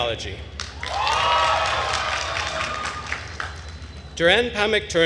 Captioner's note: attendees cheering and applauding